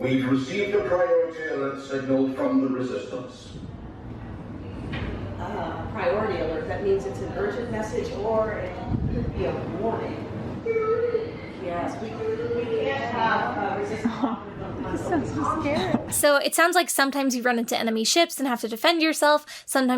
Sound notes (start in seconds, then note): 10.7 SK-620 whimpering